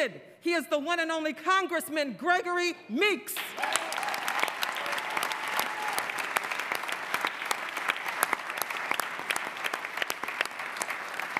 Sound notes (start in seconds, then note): 4.3 applause